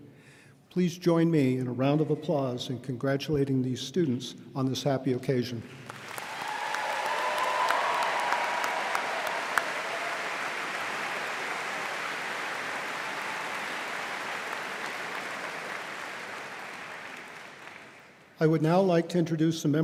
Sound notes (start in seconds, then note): 5.9 audience applauding